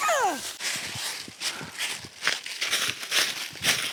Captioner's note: squeals